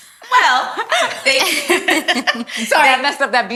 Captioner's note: all laugh